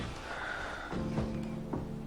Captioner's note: Nick exhales